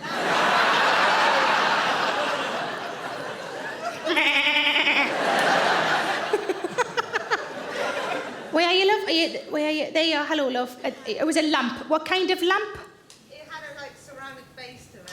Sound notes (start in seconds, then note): 2.2 audience laughing; 4.1 imitating lamb baaing; 6.1 all laugh